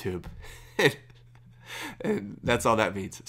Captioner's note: laughs